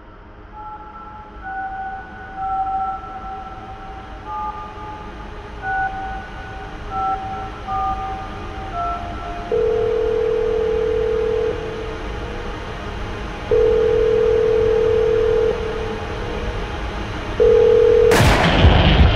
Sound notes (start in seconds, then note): 0.2 touch tone beeps; 9.4 phone rings; 18.1 gunshot